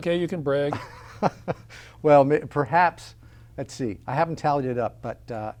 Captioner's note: laughs